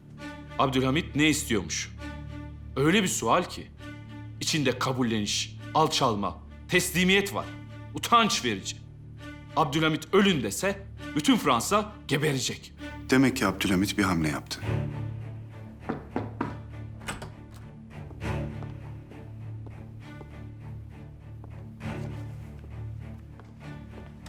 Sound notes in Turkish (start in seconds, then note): 15.8 Kapı vurma sesi; 15.8 Kapı açılma sesi; 19.0 Müzik - Gerilim